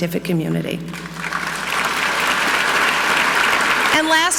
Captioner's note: audience clapping